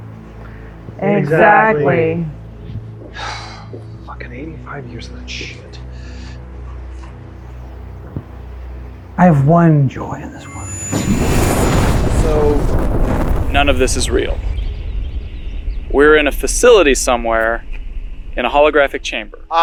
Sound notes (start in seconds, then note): 3.1 sighs; 10.7 flame whooshing and rumbling